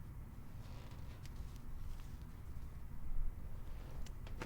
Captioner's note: chair creaks